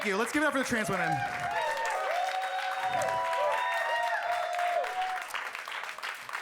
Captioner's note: audience cheering and clapping; audience clapping